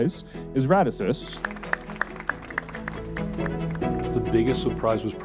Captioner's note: audience clapping